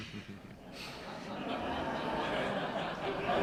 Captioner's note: laughter